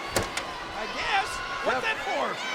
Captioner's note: ladder thuds